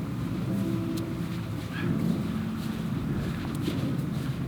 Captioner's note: wind blowing